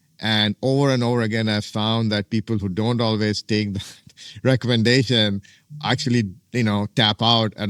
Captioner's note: laughs